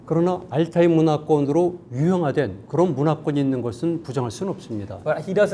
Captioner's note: speaking in Korean